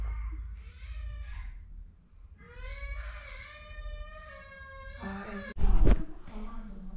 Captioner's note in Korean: 밖에서 들리는 애기 울음소리